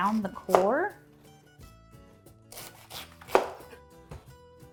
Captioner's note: knife chopping